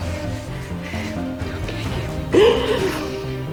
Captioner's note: whispering